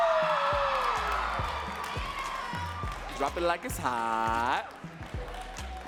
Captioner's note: audience cheering and clapping